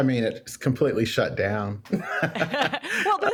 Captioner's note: laughs